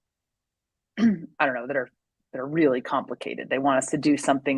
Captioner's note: clears throat